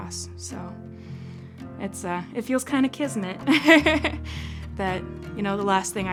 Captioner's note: chuckles